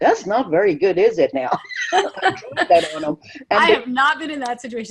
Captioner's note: laughter